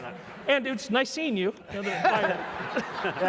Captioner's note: laugh